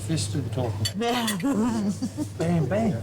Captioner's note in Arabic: يضحك